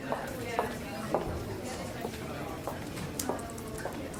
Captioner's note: muffled chatting